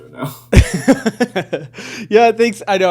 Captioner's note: laughing